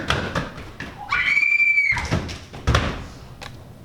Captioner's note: Phoebe screams; thump sound